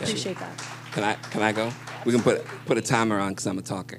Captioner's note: applause